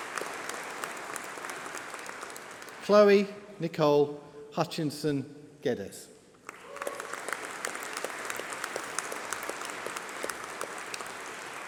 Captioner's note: applause